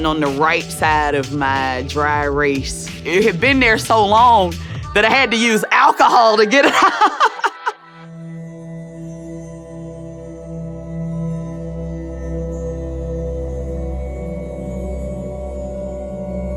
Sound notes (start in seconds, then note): 6.8 laughter; 8.1 soft twinkle sounds